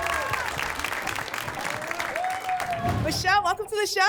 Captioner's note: applause and cheering cont